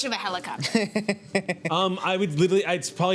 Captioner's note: laughing